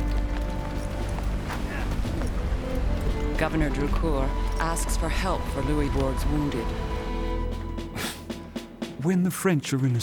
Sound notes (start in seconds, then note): 7.2 scoffs